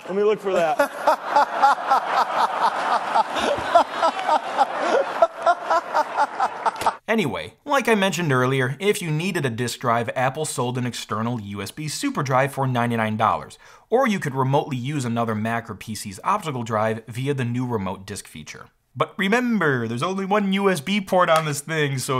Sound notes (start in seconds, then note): 0.5 laughing